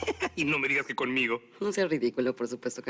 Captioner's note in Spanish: Riendo